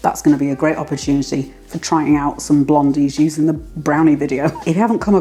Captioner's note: laugh